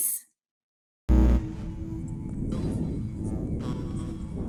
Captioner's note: buzzing